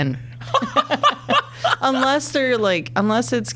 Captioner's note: laughing